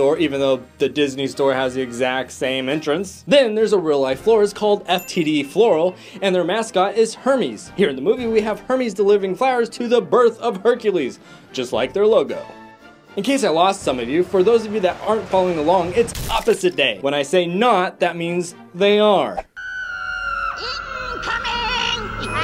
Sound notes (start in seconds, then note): 19.6 scream; 22.2 laughing